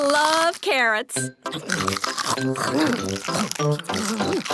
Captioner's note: crunch